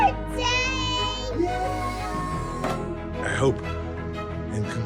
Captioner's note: all exclaim